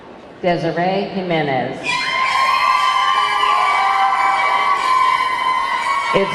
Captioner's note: audience clamoring